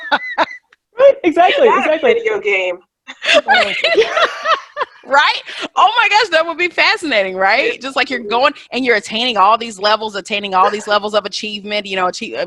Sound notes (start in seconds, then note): 3.1 all laughing